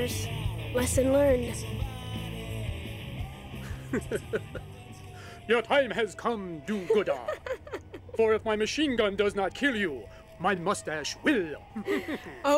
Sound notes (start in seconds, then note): 3.6 laughs